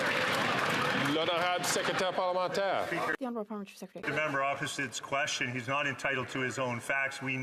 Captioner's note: some Applause